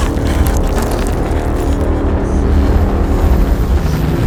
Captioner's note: gasping; concrete shaking